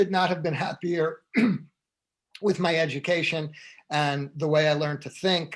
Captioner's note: throat clearing